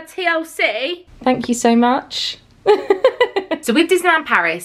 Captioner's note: laughs